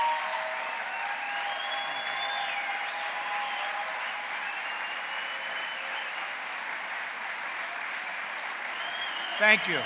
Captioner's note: applause